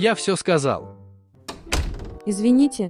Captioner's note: door closed